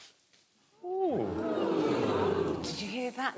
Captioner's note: audience "ooh"ing